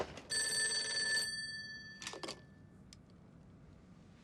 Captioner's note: phone ringing